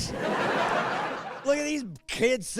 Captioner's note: laughing